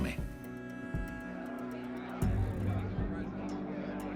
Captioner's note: mob sounds